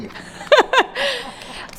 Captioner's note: chuckles